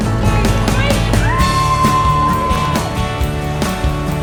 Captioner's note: screams